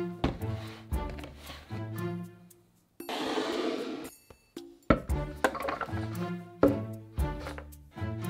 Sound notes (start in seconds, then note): 5.4 food dropping